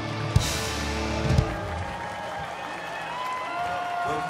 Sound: audience cheers and applauds

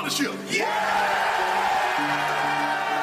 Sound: cheers

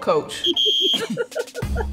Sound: whistle blows; laughs

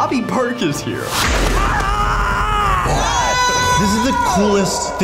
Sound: screaming

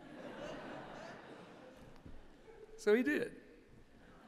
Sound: laughter

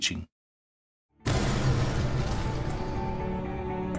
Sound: explosion; gentle music

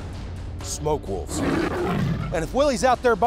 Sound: growls

